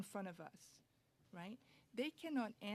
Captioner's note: speaking French